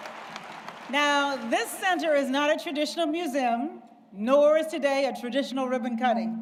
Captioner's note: applause